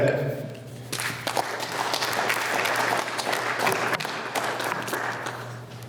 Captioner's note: applause